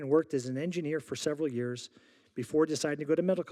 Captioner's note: none